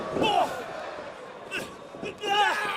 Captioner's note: crowd cheering